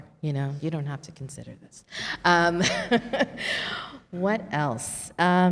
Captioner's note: laughs